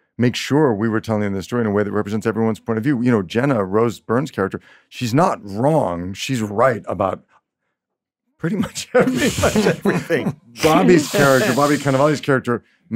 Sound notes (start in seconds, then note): 8.6 laughs